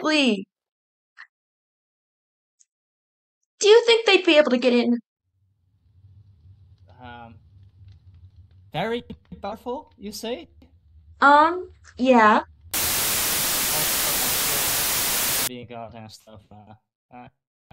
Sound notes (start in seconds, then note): 12.7 static